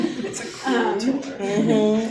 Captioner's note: laughing